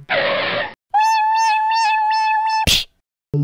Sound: skid; buzzzz snap

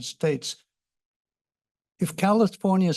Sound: pause

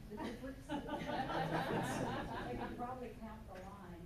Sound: loud laughter

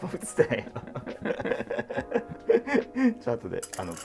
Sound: laughing

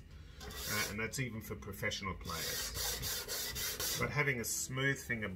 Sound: scraping

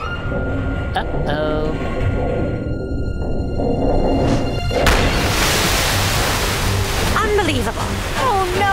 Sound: pipes rattle

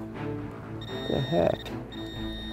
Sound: intense music; beeping

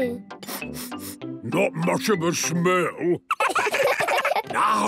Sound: sniffing; sniffs

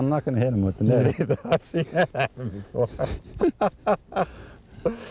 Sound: laughter

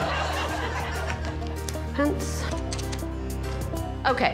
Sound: audience laughing; upbeat music

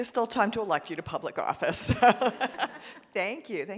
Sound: laughs

